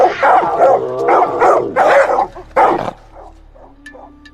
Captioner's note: dogs continue barking